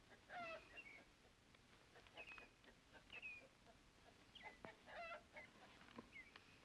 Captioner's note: birds chirp; chickens clucking; birds chirp